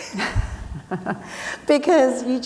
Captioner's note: laughing